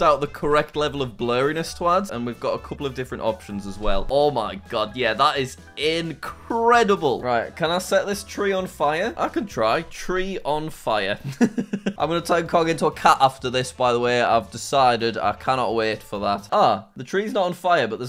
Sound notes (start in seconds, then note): 11.2 chuckles